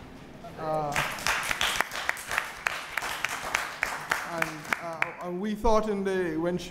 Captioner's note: applause